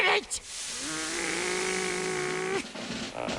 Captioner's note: angry noises